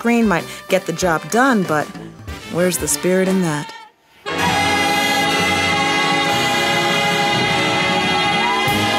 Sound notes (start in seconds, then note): 4.3 women hum